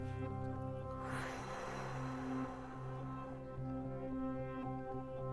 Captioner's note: Larry exhales loudly